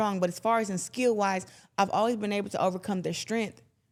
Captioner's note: none